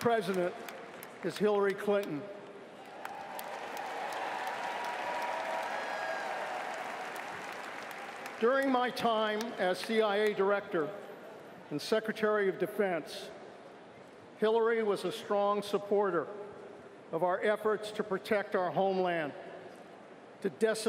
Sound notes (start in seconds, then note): 2.7 cheers & applause